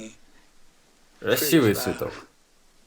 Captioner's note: laughing